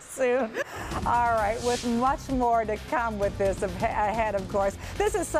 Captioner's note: laughter